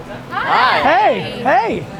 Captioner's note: chorus of "hi"s